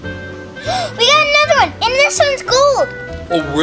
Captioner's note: gasps